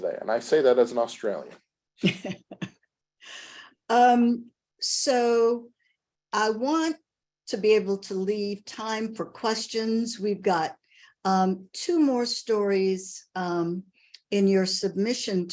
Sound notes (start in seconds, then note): 2.8 laughs